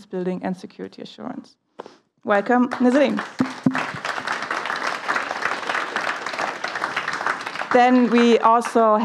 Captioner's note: applause